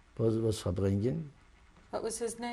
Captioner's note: non-english